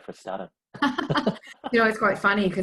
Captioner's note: laughs